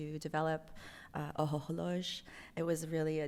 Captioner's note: non-english